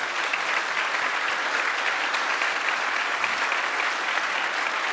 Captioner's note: audience applauds